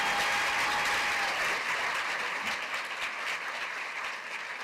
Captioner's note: cheers and applause